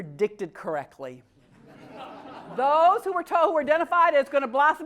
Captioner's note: laugh